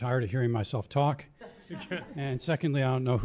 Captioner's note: laughter